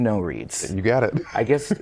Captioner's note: laughter